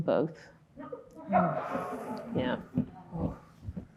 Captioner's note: audience murmuring